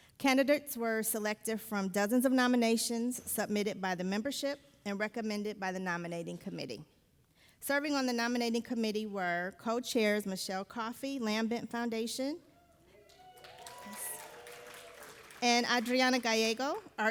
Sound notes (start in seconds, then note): 13.0 audience applauding